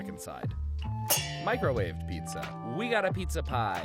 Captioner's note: metal clangs